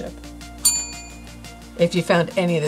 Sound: bell dings

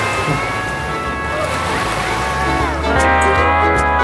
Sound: children laughing; seal barking; hawaiian music

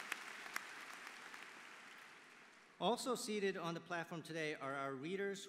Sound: applause

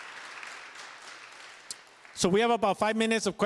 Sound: applause

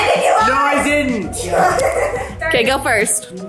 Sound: laughs

